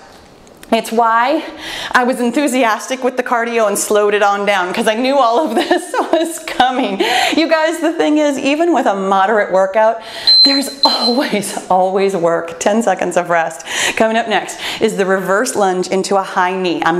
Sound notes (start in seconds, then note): 6.2 laughs; 10.2 timer beeps